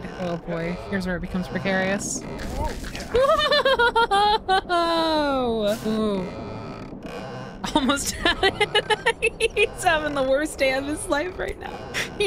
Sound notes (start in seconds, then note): 3.0 scared Laughter; 7.6 laughing